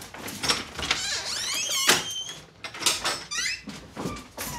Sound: door creaks

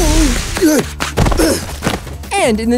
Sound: groaning

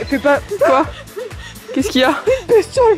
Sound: gaspgaspgaps

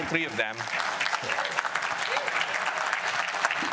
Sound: applause

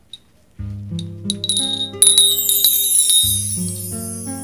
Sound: bell ringing

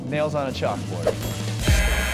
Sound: buzzing

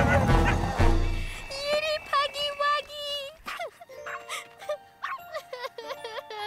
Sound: cries

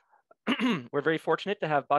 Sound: throat clearing

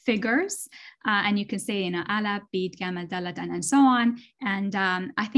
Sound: non-english speech

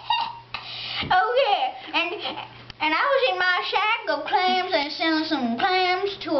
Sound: weird laugh

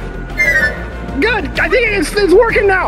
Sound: magic spell twinkling

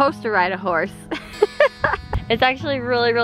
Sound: laughs

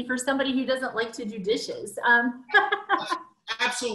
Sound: laughs

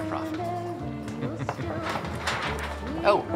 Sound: chuckles

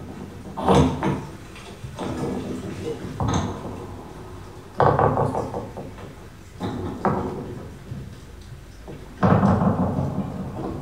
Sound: wooden door opens, heavy items laid down

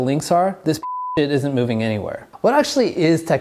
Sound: beep

